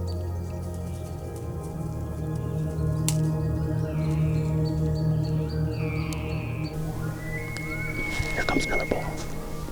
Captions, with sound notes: (Caller cow calling) (Elk bugling) Here comes another bull.